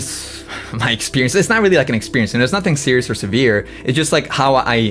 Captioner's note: laughs